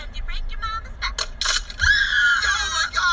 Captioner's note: back cracking noises